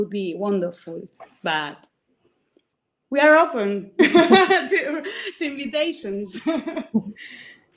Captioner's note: laughs